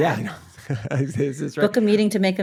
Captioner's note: both laughing